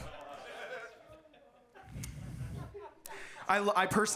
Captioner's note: audience laughing